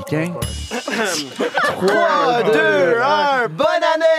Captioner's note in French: rires